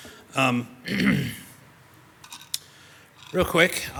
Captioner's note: clears throat